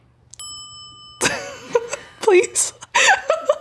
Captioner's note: bell ringing; chuckling; laughing